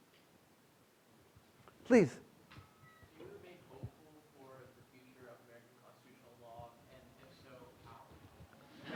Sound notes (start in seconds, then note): 3.2 student faintly speaking